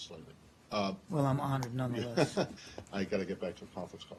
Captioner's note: laughter